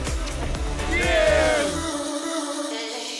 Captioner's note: crowd